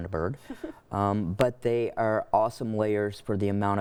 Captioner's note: chuckles